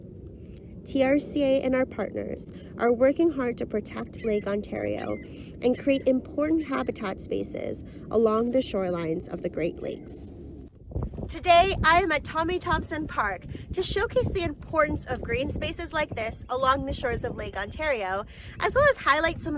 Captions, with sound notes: TRCA and our partners are working hard to protect Lake Ontario (birds calling) and create important habitat spaces along the shorelines of the Great Lakes. Today I am at Tommy Thompson Park to showcase the importance of green spaces like this along the shores of Lake Ontario, as well as highlight